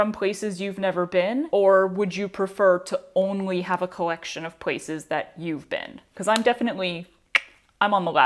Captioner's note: tongue click